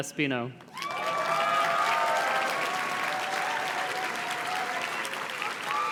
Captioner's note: audience cheers and claps